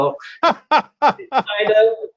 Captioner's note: laughs